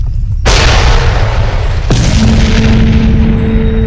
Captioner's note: rocks clattering; ground crashing